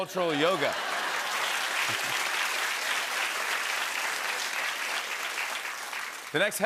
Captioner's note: applause